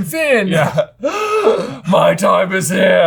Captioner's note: gasps